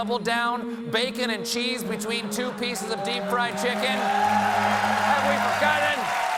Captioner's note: cheers and applause